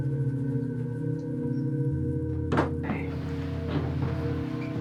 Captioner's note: door clicks